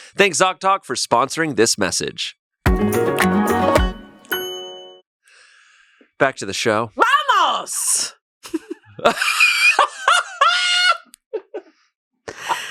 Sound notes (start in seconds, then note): 2.6 lively music; 9.3 laughs